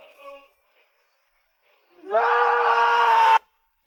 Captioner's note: shouting